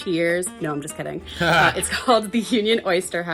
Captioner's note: laughing